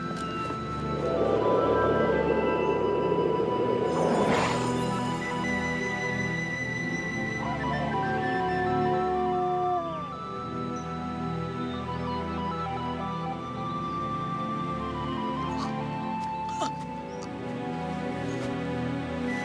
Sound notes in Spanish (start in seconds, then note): 0.0 viento silbando; 16.7 niña llorando